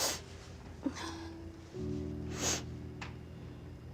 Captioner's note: sniffling